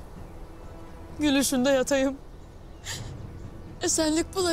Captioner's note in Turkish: Ağlama sesleri